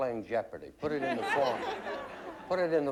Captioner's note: laughter